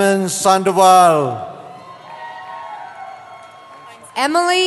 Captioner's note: cheering